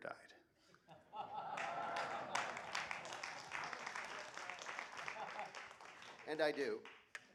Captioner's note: applause